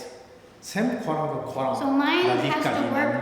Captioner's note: speaking tibetan